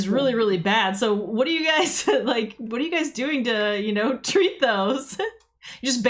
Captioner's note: laughs